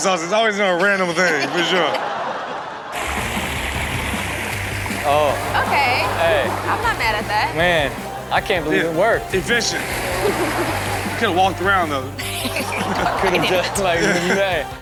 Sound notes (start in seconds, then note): 2.3 audience laughs; 3.0 water sloshes; 12.2 everyone laughs